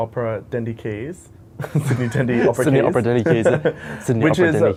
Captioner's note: laughs